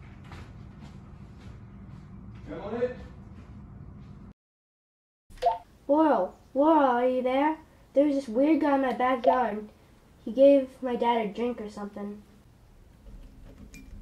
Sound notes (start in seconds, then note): none